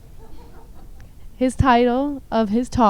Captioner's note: audience laughs